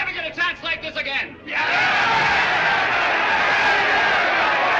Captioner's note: جمهور يهتف